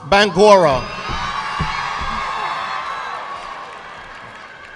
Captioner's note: audience clapping